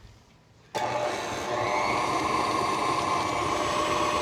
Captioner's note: mixer whirring